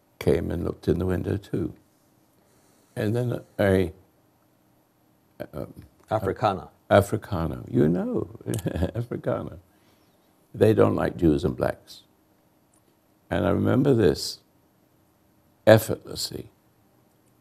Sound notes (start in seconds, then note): 8.4 chuckles